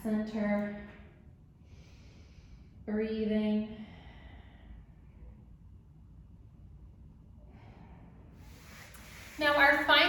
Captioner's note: deep breath